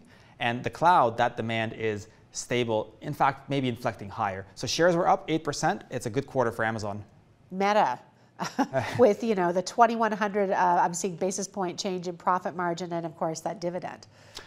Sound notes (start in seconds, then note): 8.4 laughs